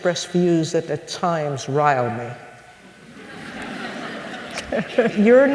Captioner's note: laugther